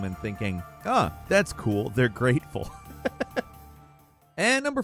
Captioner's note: laughs